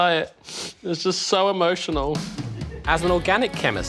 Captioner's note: sniffs